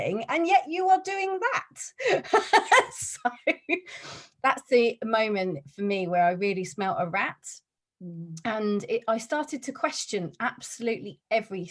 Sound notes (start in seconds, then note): 2.3 laughs